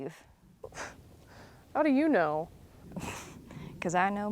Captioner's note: scoffs; chuckles